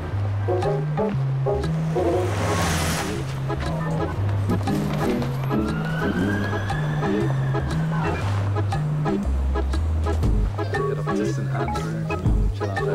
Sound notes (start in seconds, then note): 4.7 siren wails; 10.6 low chatter